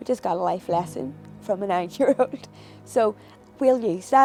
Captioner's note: chuckles